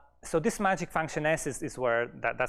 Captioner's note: none